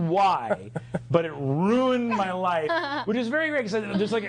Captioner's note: others laughing